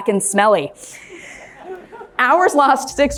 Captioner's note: crowd laughing